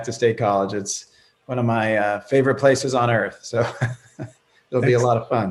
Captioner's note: laughing